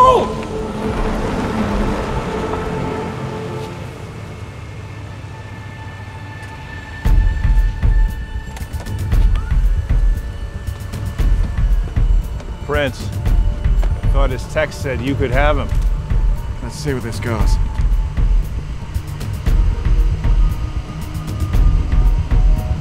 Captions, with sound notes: - Hold! (gripping music) (plane door whirs) - Prince. Thought his text said you could have him. - Let's see where this goes. (gripping music continues)